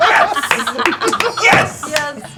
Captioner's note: laughter